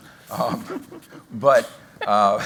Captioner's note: laughter